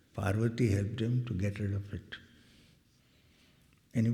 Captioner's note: none